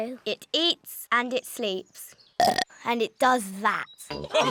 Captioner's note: burps